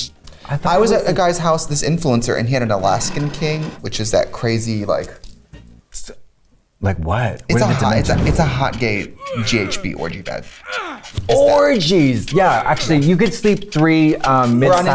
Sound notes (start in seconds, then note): 8.7 grunting